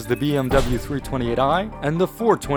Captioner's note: slam